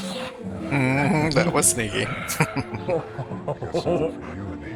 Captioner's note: chuckling